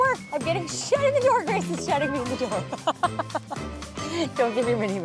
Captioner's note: laughs